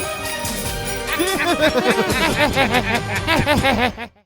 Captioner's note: laughs